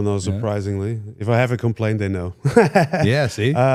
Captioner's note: laughs